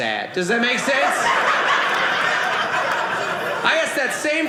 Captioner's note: audience laughing